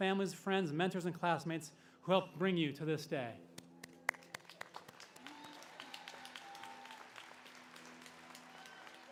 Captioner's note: applause